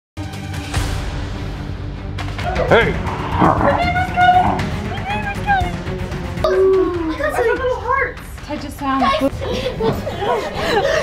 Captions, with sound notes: (dramatic music) - Hey. - The neighbor's coming, the neighbor's coming! Ooh. (yelling)